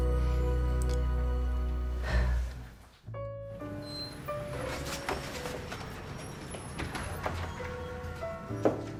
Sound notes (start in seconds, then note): 2.0 sighs; 4.4 jazzy music